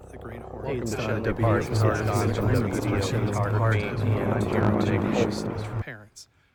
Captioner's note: helicopter noise growing